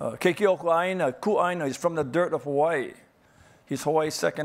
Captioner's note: speaking foreign language